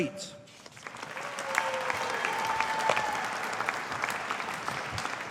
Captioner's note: audience applauding